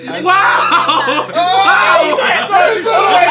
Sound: Ethan screaming; group laughing

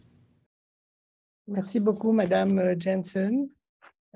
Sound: speaking French

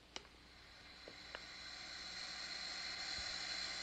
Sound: gas Hissing

